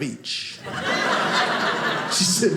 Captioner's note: audience laughing